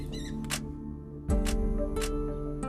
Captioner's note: squealing stops